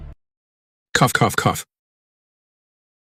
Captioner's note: cough, cough, cough!